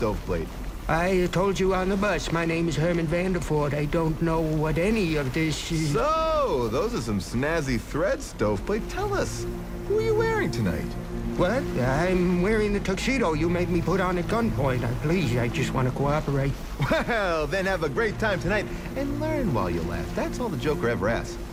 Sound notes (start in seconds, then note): 16.6 chuckling